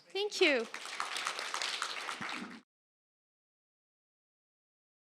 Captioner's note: applause